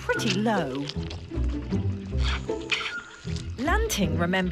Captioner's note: bright upbeat music; orangutans squeaking